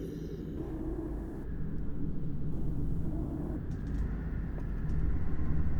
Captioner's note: heavy, distorted wind